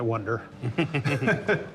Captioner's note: laughter